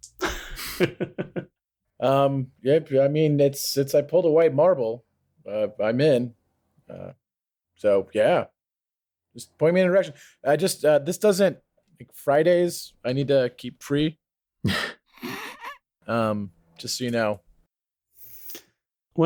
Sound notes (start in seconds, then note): 0.2 laughter; 15.1 laughter